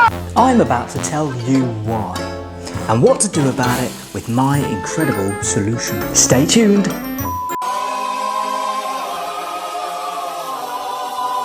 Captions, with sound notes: - I am about to tell you why and what to do about it with my incredible solution. Stay tuned. (beep) (angelic harmony)